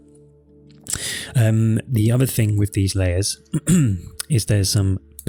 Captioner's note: clears throat